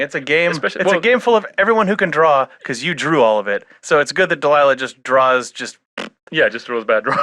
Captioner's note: mouth fart